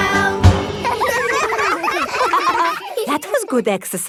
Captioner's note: all giggling